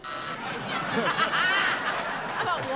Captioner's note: buzzer